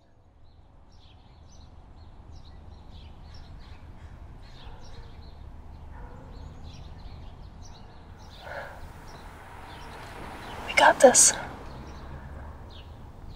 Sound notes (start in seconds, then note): 1.1 birds chirping and dogs barking